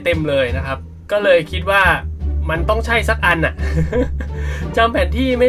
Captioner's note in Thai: ขำ